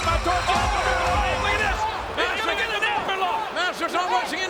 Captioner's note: commentators chattering